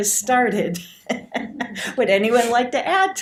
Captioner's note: audience laughter